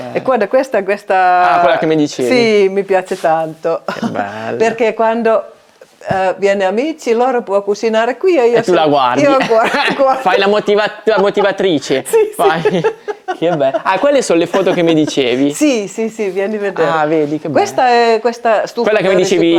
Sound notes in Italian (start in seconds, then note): 4.0 schiarire la voce; 9.7 risate